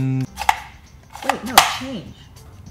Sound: lever popping

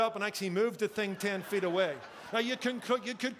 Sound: congregation laughing

